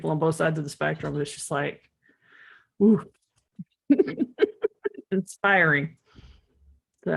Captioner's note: laughs